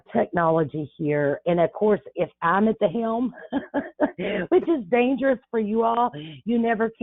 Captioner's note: laughs